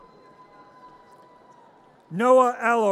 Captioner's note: audience cheers